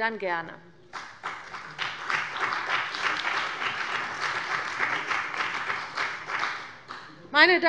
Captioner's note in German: Beifall bei dem BÜNDNIS 90/DIE GRÜNEN und der CDU